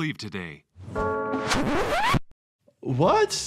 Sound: church bell rings

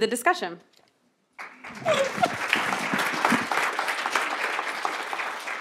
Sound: applause

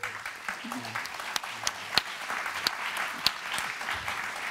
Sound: applause

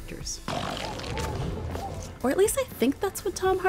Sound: growling

